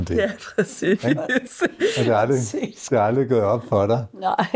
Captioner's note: chuckles